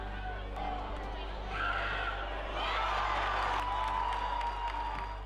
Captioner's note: fans cheering